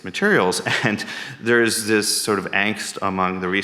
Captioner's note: chuckles